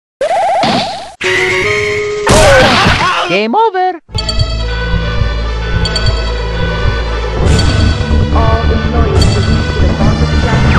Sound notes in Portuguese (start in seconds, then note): 3.9 sirene alta